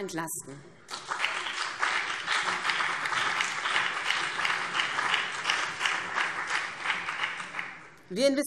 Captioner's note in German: Beifall BÜNDNIS 90/DIE GRÜNEN und vereinzelt CDU